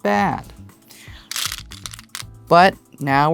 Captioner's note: stones rattling